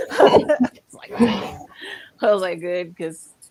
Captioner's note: laughs